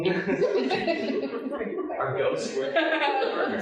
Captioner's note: audience laughing